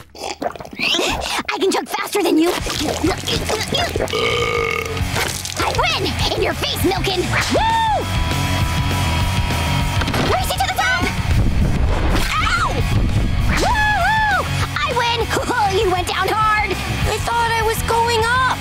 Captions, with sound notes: I can chug faster than you! [burping] Win! In your face, Milk-oln! Woo! Race you to the top! Ow! Woo hoo! I win, oh, you went down hard. I thought I was going up?